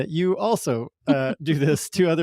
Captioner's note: laughs